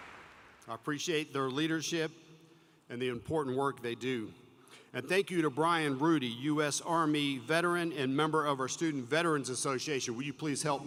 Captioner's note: applause